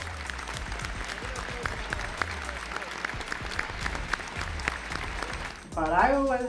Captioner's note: applause